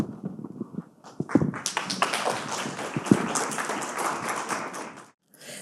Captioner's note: audience applauding